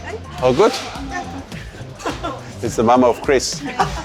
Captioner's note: laughing